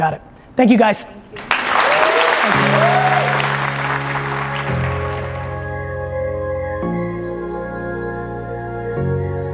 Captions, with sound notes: You got it. Thank you, guys. (audience applauding) (mellow music)